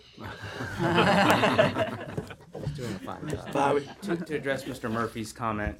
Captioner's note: laughter